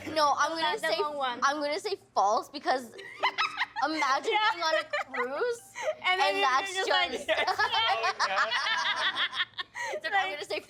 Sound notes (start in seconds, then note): 3.0 laughing; 7.2 laughing